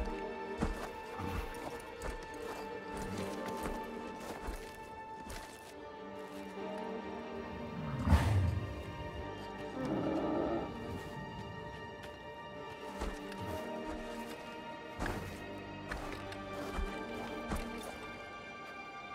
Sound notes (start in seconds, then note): 8.0 creature snorts; 9.7 creature whines